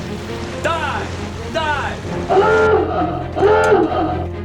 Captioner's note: horn blares